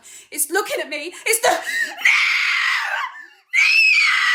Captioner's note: screaming